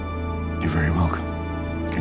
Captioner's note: voiceover